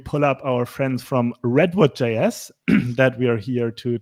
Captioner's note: clears throat